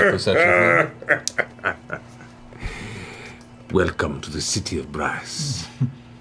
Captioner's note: laughs